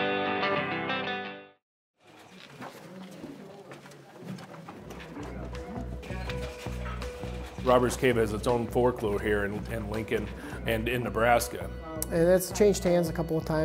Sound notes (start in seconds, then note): 0.0 upbeat music; 2.1 crowd talking